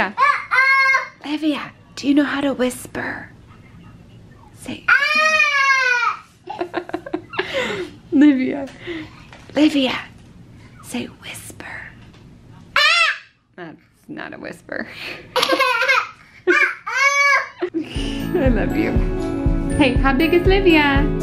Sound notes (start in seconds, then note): 6.4 laughs; 9.2 whispers; 16.4 laughs